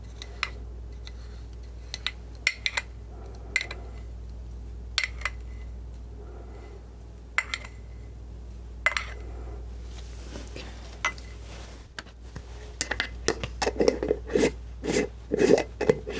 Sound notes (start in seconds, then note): 4.4 scratching